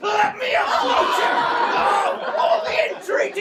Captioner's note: shouting